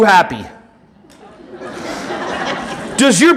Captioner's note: audience laughing